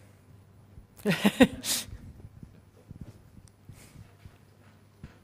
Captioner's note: laugh